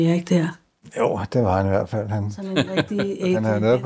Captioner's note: laughs